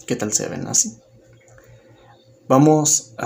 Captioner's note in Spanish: Silencio